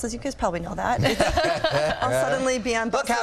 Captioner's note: laughs